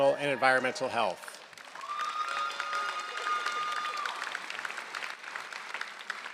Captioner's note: applause